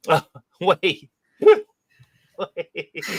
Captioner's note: laughter